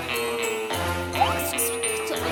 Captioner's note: whispering